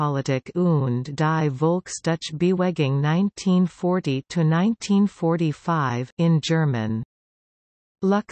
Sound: in German

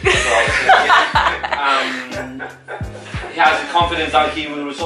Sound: laughter

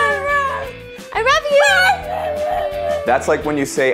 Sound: dog howling

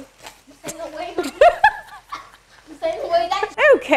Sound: laughs

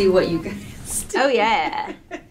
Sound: laughing

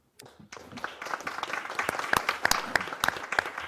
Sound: applause

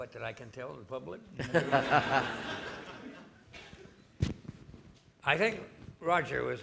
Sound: audience laughing

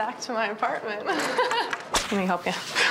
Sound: laughs

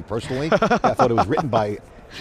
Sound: laughing

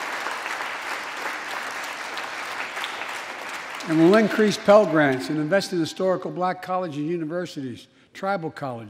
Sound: applause

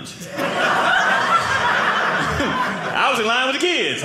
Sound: audience laughing

